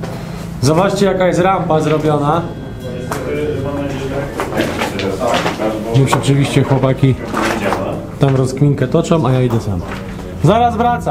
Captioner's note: voices in the background